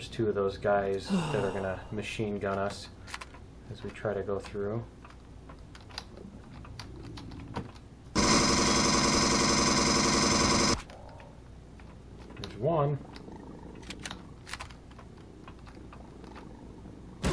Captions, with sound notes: There's two of those guys that are gonna machine gun us as we try to go through. [footsteps] [aliens growling] [pulse rifle] [alien dying] There's one. [alien growling] [reloading]